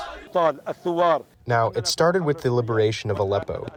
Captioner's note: through translator